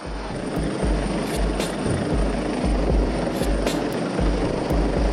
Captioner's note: helicopter whirring